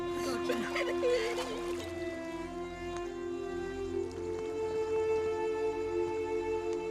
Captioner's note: sobbing